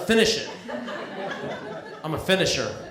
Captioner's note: laughter